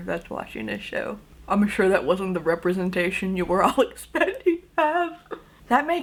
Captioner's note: laughingly